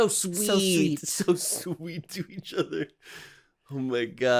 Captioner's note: chuckling